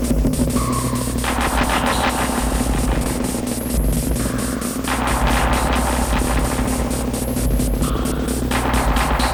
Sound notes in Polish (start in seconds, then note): 4.1 Wystrzały powtarzają się nieregularnie